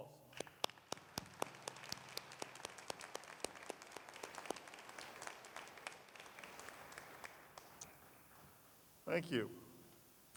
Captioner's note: applause